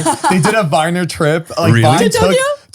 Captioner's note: laughing